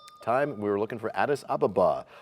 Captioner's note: bell rings, time expires